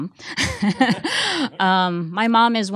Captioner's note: laughing